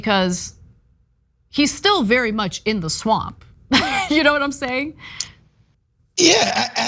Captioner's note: laugh